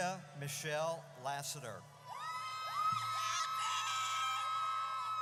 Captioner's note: audience cheers